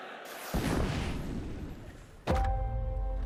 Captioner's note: exploding; door opening